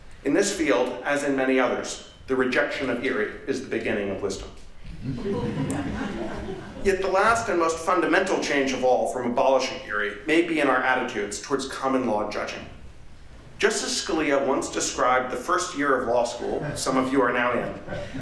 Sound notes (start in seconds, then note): 4.9 laughter